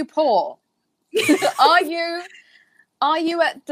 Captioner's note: laughing